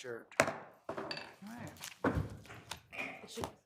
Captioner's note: gavel pounding